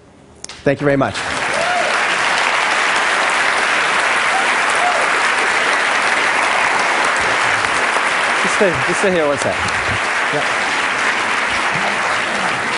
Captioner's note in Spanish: Aplausos